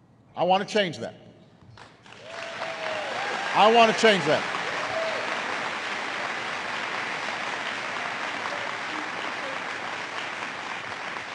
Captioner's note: applause